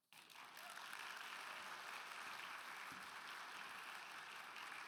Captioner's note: audience applauding